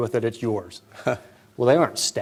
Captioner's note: laughter